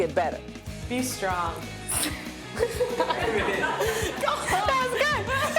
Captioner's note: laughter